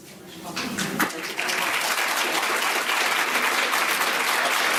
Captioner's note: audience applauding